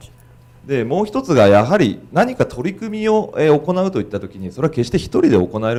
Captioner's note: speaking foreign language